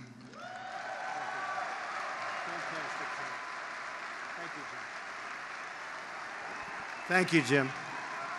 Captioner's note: applause